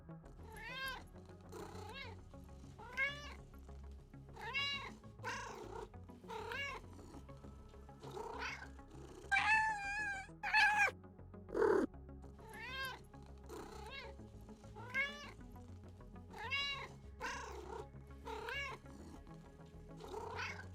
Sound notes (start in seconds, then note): 2.7 cat Noises; 14.7 cat Noises